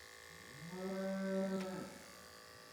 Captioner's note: buzzing noises; mooing noises; buzzing noises